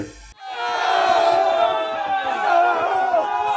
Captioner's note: bigger crowd yelling